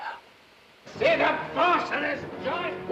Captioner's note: man yelling